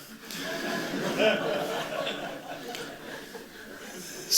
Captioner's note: laughter